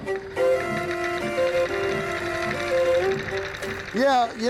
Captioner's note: machine sewing